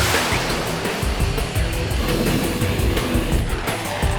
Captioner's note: aircraft engine roaring